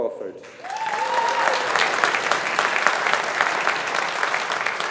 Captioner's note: audience applauding